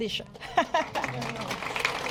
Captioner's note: applause